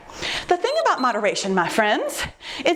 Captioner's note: timer beeps